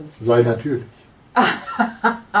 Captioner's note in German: Aus dem Off; lacht